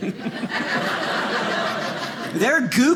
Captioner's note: audience laughing